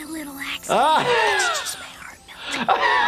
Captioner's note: laughing